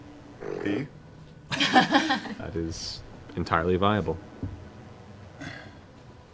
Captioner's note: laughter